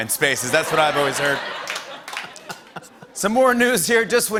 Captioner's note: laughter